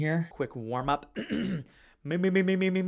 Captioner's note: clears throat